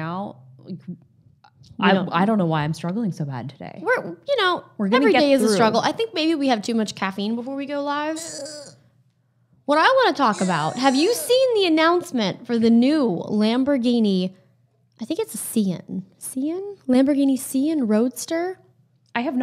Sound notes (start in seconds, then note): 8.2 groans